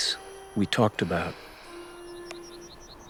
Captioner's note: sighs